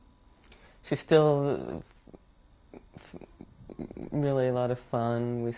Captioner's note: pauses for 3 seconds